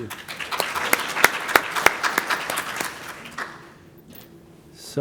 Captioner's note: applause